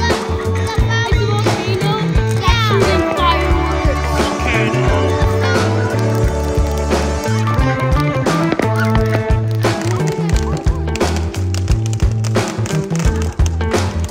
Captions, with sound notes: - It's a volcano that's shooting fireworks. (fun music) (fireworks popping and sizzling)